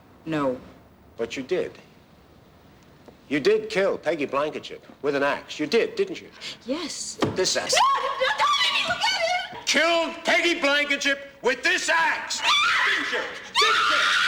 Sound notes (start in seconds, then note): 7.7 screaming